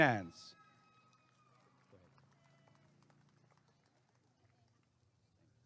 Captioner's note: applause and cheering